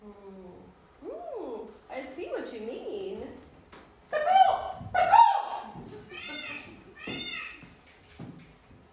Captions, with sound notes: Oh, I see what you mean. [fake bird call] - [real bird call]